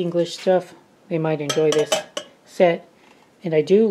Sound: clank

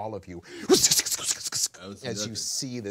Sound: making funny noises

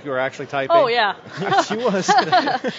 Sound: laughter

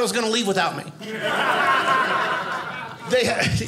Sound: audience laughing

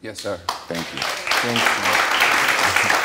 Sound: audience applauds

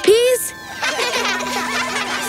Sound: laughing

